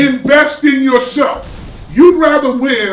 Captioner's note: crashing noise